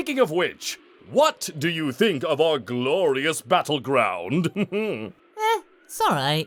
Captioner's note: chuckles